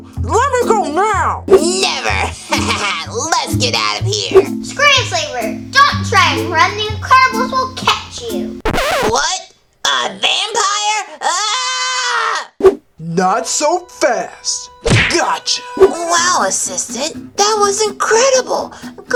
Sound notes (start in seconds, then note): 2.0 laughs; 11.2 screams; 14.8 whacking noise